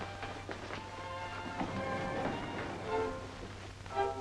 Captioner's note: doors sliding